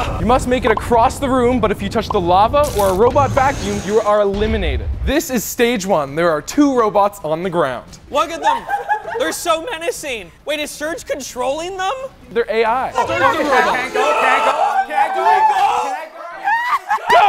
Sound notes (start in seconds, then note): 8.4 laughing; 12.9 indistinct yelling and laughter